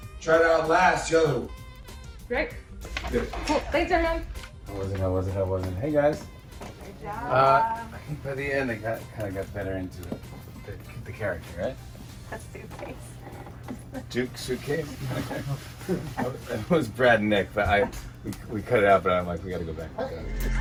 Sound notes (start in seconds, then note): 12.0 laughing; 13.3 all chuckling